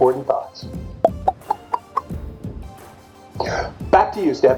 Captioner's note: think box popping